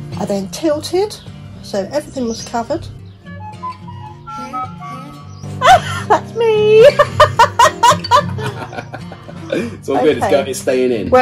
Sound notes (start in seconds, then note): 3.3 phone chimes; 5.5 laughing